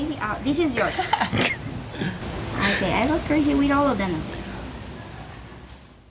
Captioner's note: laughing